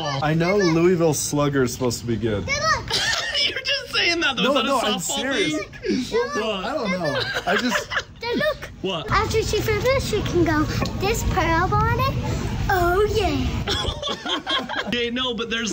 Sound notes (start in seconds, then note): 6.1 child exclaiming; 13.6 people laughing